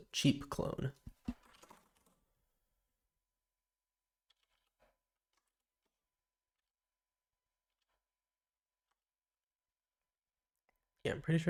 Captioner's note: silence